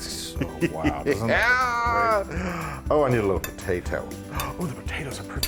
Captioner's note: laugh